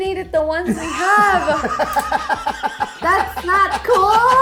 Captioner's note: laughs